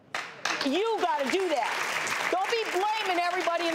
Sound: audience applauds

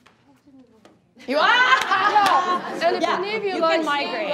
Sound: laughing

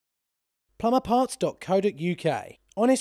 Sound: voiceover

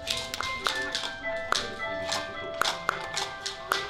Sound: hard knocking on wood

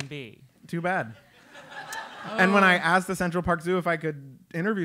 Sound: laugh

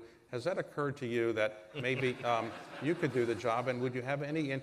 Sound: laughter

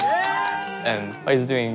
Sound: audience cheering

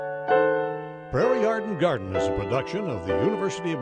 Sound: voiceover

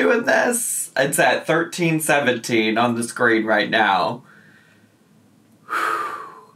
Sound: sighs

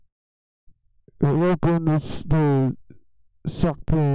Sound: muffled mic noises

